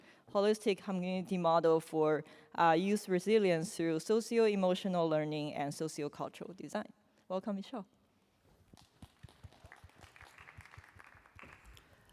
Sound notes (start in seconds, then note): 8.7 applause